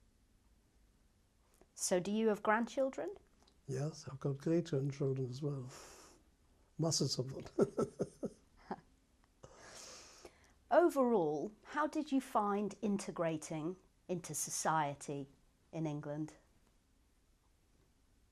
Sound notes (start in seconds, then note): 6.8 laughs